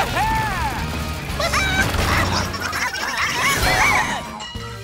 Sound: squawking

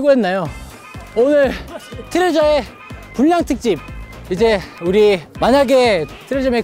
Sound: panting hard

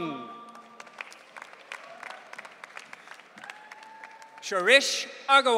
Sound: audience cheering

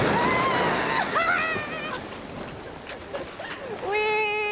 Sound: screaming

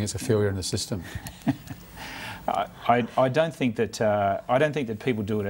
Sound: chuckles

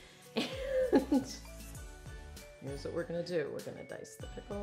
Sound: laughs

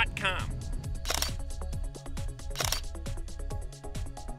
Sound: camera shutter clicking

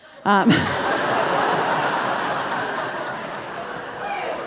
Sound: audience laughing

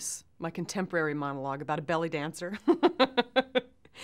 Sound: laughs

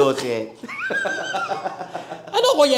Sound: both laugh

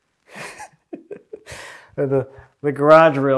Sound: laughs

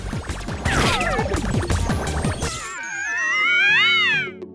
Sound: upbeat music; electronic chiming

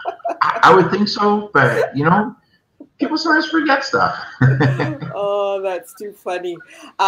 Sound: laughs

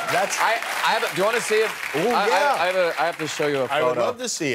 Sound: cheers and applause

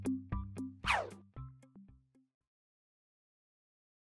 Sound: air whooshing

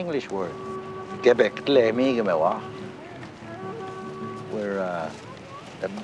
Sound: speaking in foreign language

